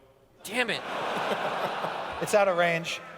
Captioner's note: laughter